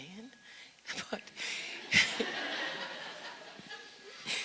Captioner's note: audience laughs